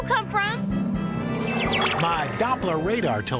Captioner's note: magical sounds